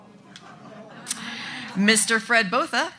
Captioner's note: audience laughs